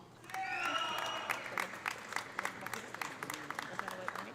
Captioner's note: audience cheering; audience applauding